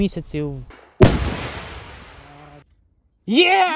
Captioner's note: sound of launched rocket